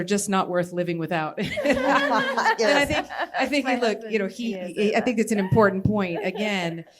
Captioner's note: laughter